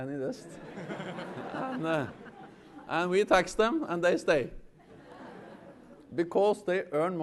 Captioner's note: laughter